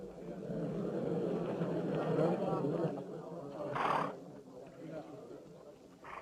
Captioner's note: crowd murmuring